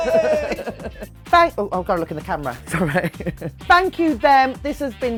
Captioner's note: chuckles